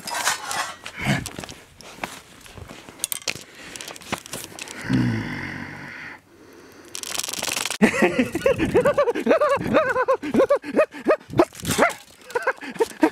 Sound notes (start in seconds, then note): 4.8 groaning; 6.9 camera popping; 7.8 laughing; 7.8 pieces clanking